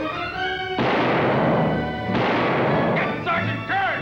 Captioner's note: gunshots